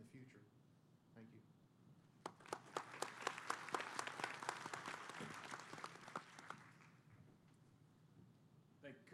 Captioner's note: applause